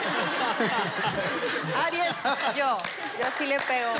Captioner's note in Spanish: Risas